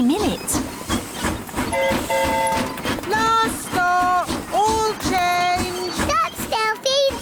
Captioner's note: train whistle blowing